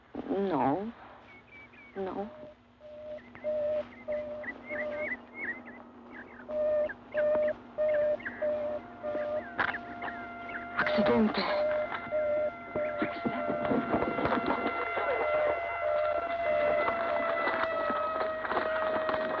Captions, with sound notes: N-no. No. [alarm ringing] Accidente! [siren blaring]